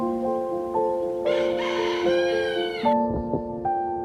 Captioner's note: actual chicken sound